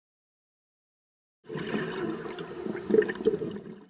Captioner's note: underwater exhalation